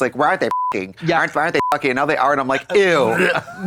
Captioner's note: beep